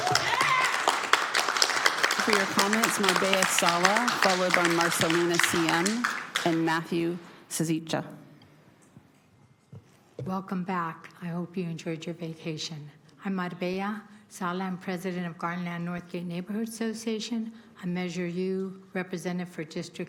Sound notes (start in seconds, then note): 4.3 applause; 4.5 cheering/Applause